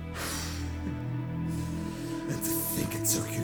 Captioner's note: laughing